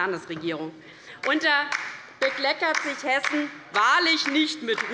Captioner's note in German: Beifall bei der LINKEN